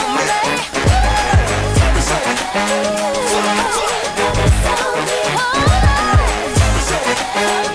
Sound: ooh; ooh

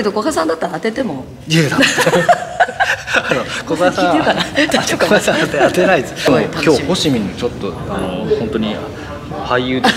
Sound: laughs

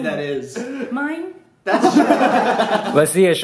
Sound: laughter

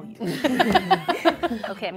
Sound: laughter

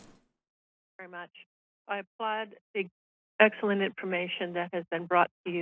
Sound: soft Voice

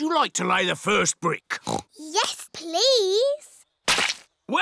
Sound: oinks

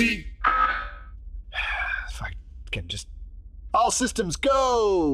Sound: sigh

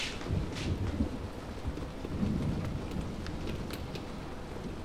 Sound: thunder rumbles

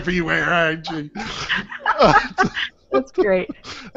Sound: laughing

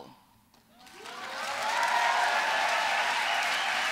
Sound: applause

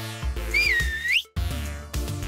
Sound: whistling

